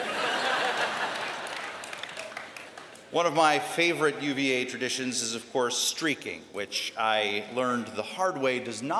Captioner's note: laughter